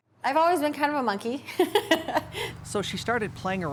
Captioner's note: laughs